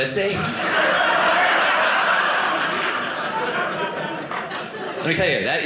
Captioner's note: audience laughing